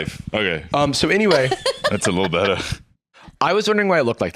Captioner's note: laughs